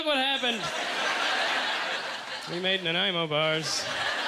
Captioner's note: audience laughter